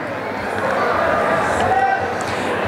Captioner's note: cheering and applause